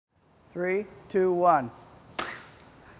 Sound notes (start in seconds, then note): 2.1 snap